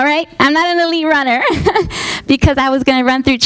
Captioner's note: laughing